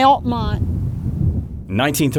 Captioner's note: wind blowing